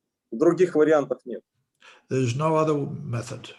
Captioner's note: speaking Russian language